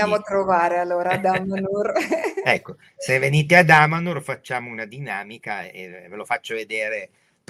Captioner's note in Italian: risate